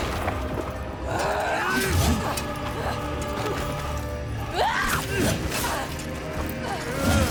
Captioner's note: grunting; screaming